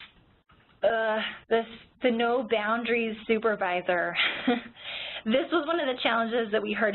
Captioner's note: chuckles